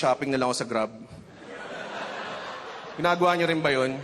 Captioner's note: laughter